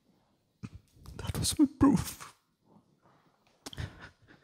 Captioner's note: voice cracking again; sobbing softly